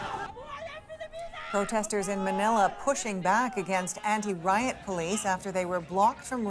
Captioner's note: yelling